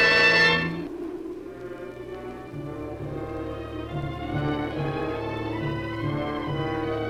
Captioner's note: muffled wind howls; suspenseful orchestral music